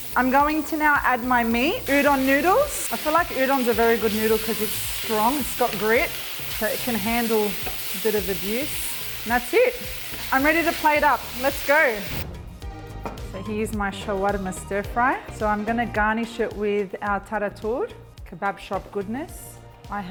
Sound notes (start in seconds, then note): 12.2 plate thuds; 12.2 whooshing